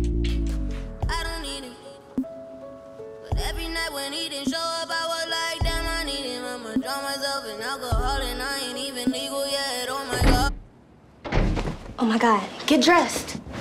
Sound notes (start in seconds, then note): 11.2 door slamming